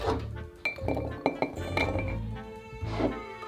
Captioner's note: sweet potatoes dropping